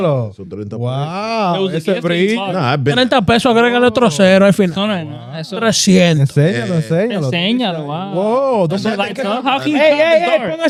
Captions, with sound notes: wow. (Speaking In Foreign Language) How can you call the car?